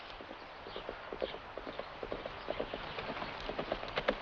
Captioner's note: hooves clattering